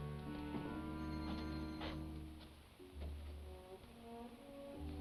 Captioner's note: doorbell rings